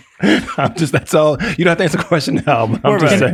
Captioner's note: laughs